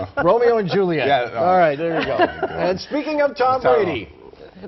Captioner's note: laughter